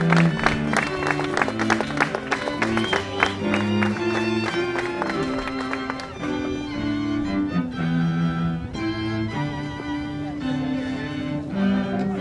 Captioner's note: applause